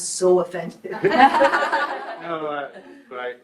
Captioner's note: group laughs